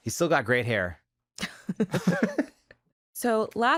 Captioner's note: both laugh